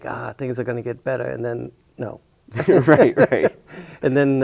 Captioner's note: both chuckle